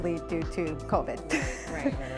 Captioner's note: laughs